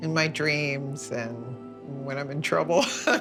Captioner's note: laughs